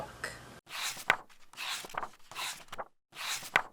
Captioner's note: pages turning